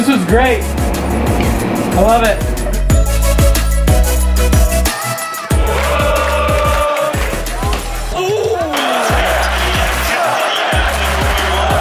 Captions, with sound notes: - This is great! I love it. (crowd chanting) (crowd cheers)